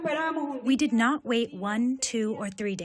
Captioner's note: through translator